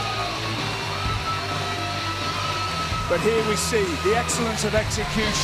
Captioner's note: cheers and applause